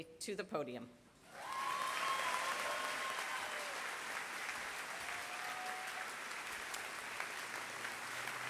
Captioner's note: applause